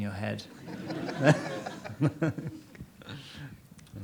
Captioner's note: audience laughs